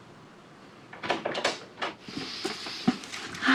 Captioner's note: door opening